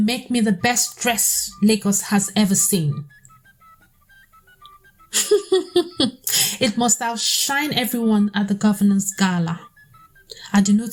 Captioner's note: laughs